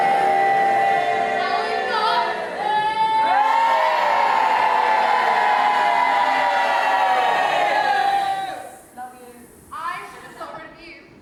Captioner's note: audience boos; audience boos louder, someone says "Love you!"